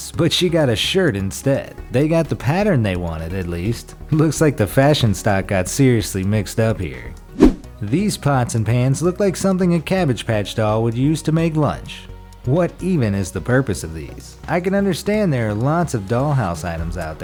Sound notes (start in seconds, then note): 7.2 air whooshes